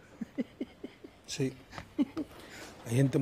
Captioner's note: laughs